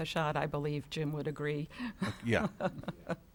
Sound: chuckles

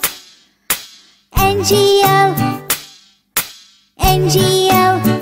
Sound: clap; clap

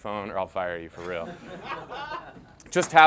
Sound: agents laugh

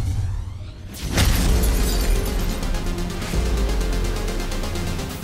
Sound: glass shatters

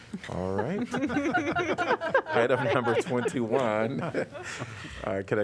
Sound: laughter

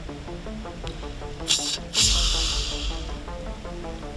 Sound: snort wheeze call

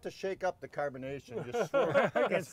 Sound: all laughing

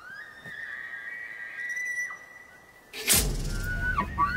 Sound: elk screeching

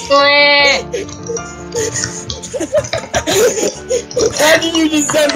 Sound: laughs

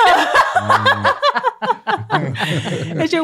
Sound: all laugh

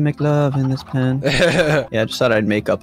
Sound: laughs

